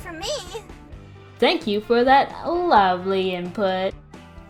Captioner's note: sarcastic